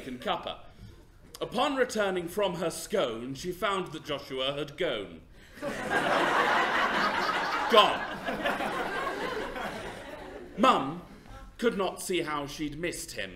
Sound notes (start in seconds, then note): 5.5 laughter